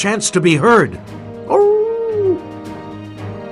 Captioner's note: howls